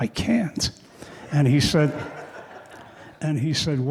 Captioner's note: audience laughing